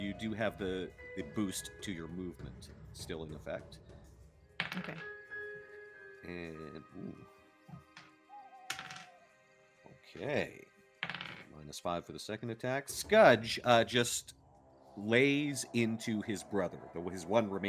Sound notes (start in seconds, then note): 4.6 dice tapping; 8.7 dice tapping